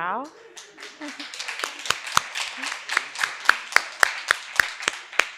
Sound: audience applauding

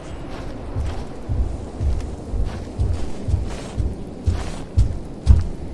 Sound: thump thump thump

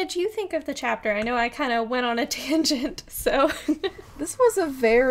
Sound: laughs

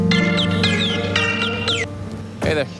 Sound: ringtone rings

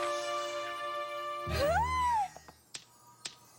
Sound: crackle; claws clicking

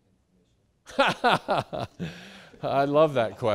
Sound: laughing loudly

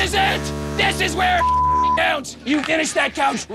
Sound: beep

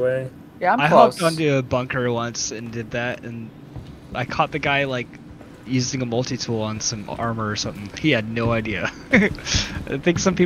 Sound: laugh

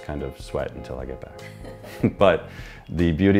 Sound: laughs

